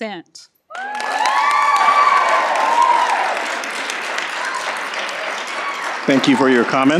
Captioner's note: cheers and Applause